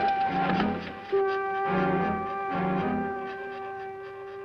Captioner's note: rods scraping